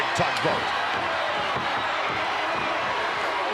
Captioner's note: crowd shout